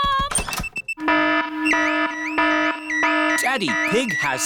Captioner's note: alarm blaring